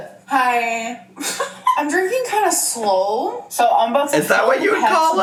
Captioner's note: giggles